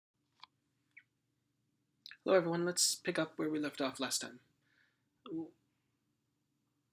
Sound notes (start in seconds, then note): 2.2 voiceover